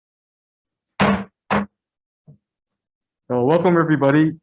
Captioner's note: gavel banging